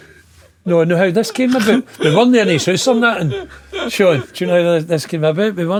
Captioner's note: laughing